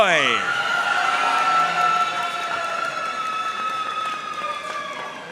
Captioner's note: audience cheering and applauding